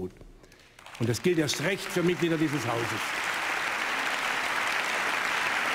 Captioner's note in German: Beifall im ganzen Hause